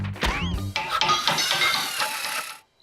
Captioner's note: hammering and metal clanging